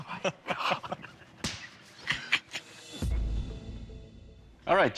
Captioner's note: laughs